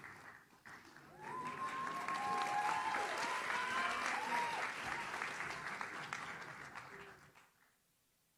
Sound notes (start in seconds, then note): 1.1 audience cheers